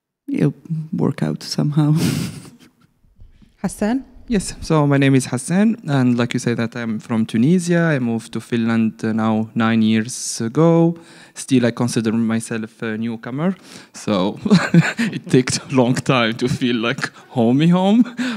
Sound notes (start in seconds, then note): 2.0 laughs; 14.4 laughs